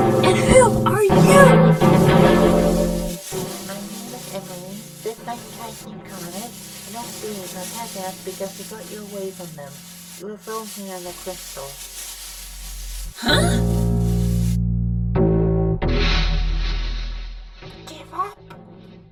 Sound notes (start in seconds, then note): 15.8 explosion